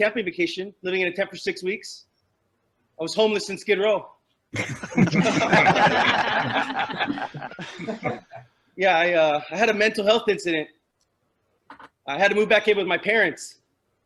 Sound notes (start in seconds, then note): 4.5 laughter